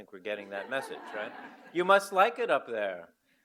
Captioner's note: audience laugh